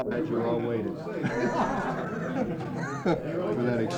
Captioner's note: laughter